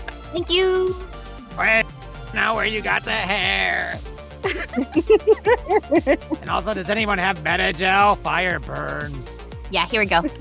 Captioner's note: MARIA giggles